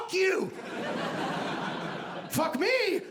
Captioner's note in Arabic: ضحك